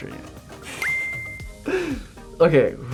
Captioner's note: chuckles; beeps